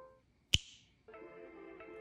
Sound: snaps fingers

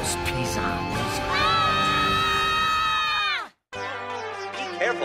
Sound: screams

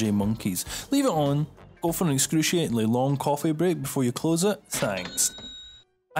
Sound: cha-ching

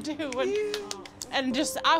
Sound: clapping

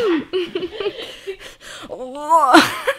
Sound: laughing; groaning

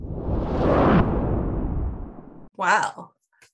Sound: logo whooshes

